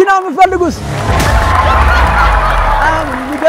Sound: crowd scream

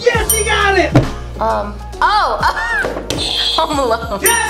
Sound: laughs; buzzer rings

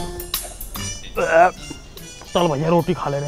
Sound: burping

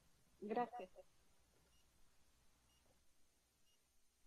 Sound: speaks Spanish

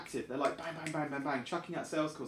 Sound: snaps fingers

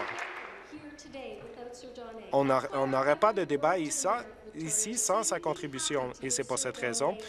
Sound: applause

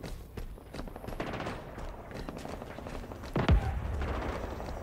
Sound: distant gunfire

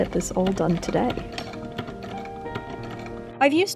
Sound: antique sewing machine click clack

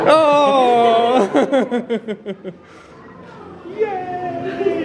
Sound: chuckles

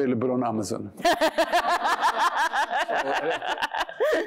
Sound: laughter

